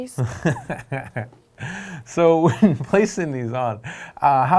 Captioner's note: laughing